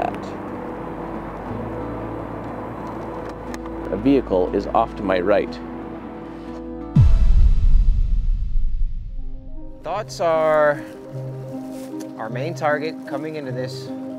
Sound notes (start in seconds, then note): 6.9 heavy thud echoing; 6.9 music abruptly ending